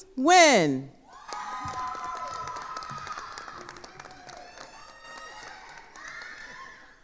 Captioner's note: attendees cheering and applauding